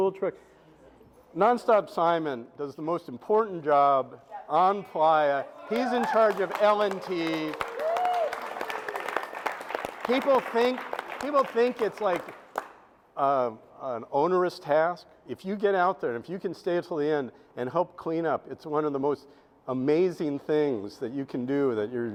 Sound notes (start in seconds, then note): 8.7 audience applauds